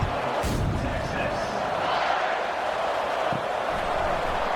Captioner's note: crowd Noises